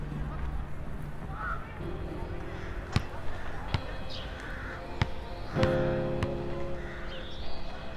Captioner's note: basketball bouncing